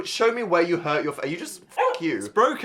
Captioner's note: dog barking